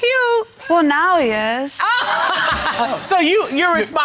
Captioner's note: all laughing